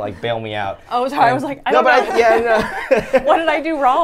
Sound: laughs

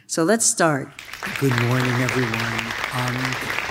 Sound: audience claps

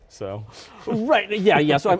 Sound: laughing

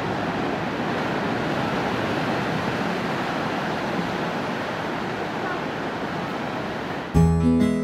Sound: sound of ocean and waves

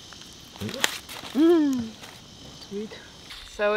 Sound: laughs

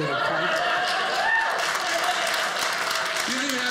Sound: audience cheering

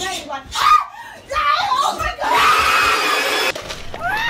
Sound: Screech; screams

